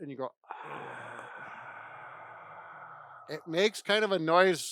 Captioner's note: exhales